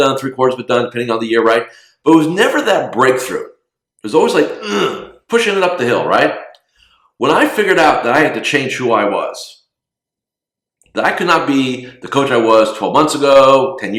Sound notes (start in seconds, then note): 4.6 grunting